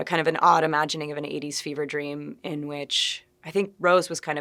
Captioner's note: none